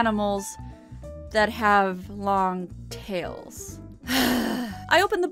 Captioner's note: heavy sigh